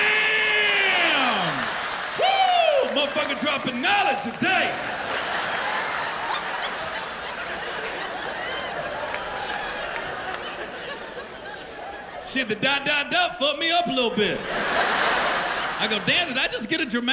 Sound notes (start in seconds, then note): 6.3 laughter